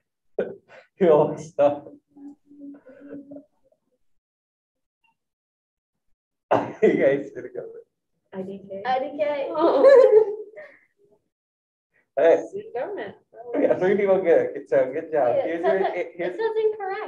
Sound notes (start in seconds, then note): 0.6 student coughs; 9.6 laughing